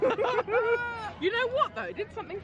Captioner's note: friends laugh